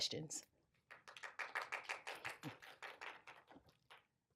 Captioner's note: applause